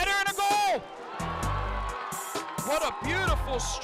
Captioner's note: crowd cheers